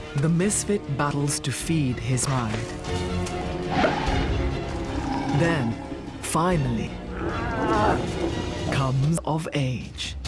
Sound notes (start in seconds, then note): 3.7 growls; 7.0 roars